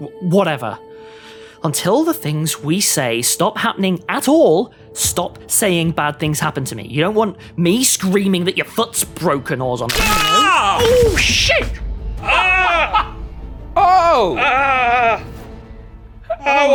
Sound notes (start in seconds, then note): 9.9 bones crunch; 9.9 screams; 12.6 laughs